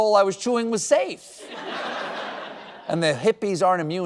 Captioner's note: audience laughing